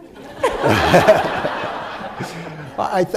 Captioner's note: laughter